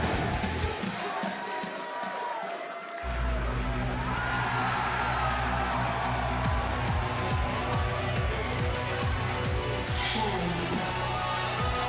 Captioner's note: crowd cheering